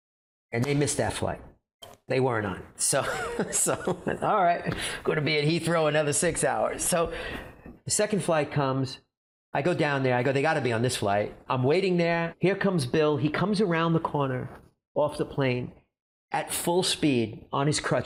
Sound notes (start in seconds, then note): 3.0 chuckling